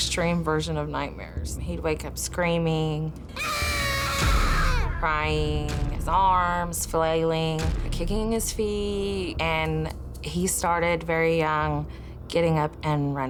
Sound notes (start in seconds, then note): 3.3 screaming